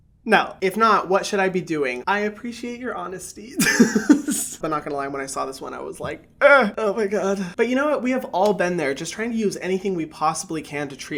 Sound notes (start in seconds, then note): 3.6 laughs